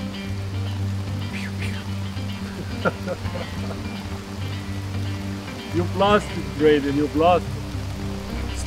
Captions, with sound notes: (Pew Pew) (Laughs) You've lost it Graydon, you've lost it.